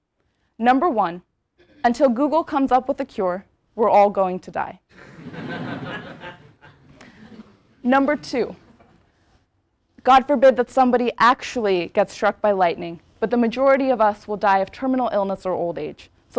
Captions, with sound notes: Number one. Until Google comes up with a cure, we're all going to die. >> [LAUGH] >> Number two. God forbid that somebody actually gets struck by lightning, but the majority of us will die of terminal illness or old age.